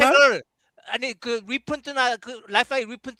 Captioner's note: non-english speech